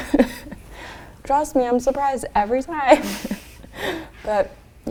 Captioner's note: laughs